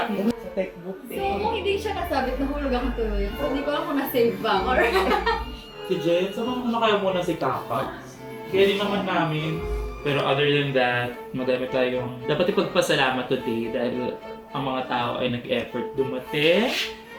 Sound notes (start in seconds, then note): 4.6 laughs